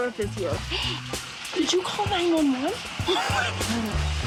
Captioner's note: gasps